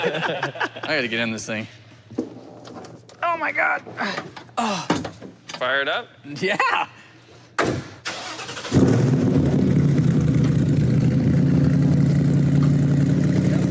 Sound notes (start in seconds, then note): 0.0 laughter; 4.2 grunts; 8.0 engine starts